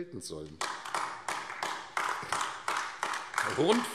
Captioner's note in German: Beifall AfD